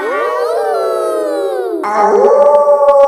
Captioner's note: kids howling; howling; wolf howling loudly